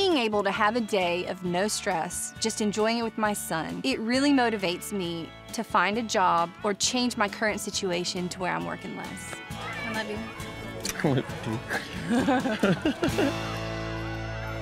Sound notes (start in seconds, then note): 10.9 both giggling; 11.6 smooch